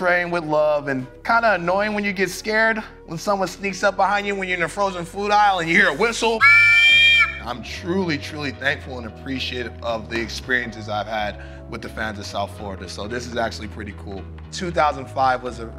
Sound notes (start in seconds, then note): 6.2 whistle